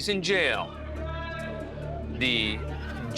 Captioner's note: indistinct chatter